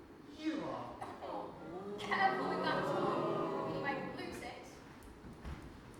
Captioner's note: audience: oooooh